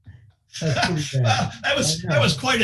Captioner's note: laughing